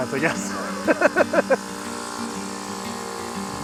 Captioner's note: man laughing